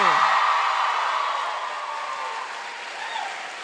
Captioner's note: applause